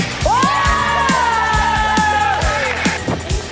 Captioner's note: cheering